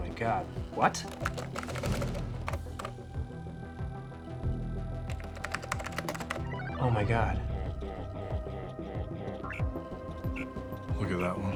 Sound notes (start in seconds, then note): 0.6 keys tapping